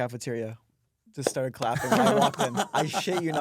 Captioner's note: laughs